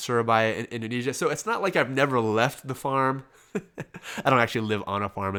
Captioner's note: laughs